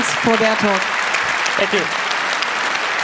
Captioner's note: applause